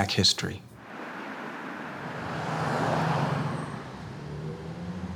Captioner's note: air whooshing